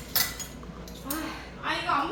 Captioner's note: sighs